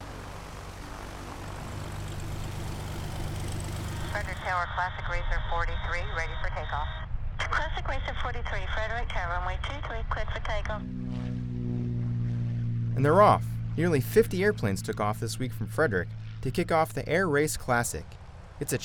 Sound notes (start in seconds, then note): 0.0 engines running; 4.3 pilot On Radio; 11.2 engine roaring